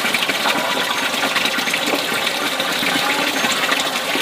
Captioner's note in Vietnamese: Vỗ tay